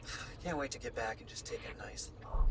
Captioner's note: sighs